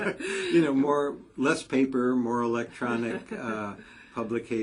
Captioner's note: laugh; laugh